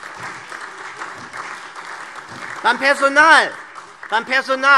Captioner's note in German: Beifall SPD, Freie Demokraten und DIE LINKE